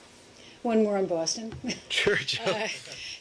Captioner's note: laughter